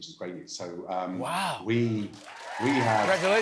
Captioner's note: cheers and applause